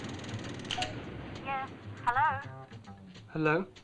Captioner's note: pay phone lever charging; button beeping; woman on phone